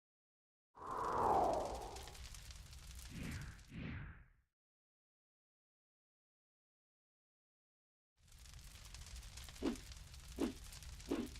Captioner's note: sound of fire burning